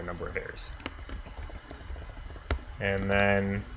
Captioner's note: keyboard clicking